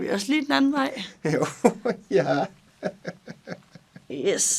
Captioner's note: laughs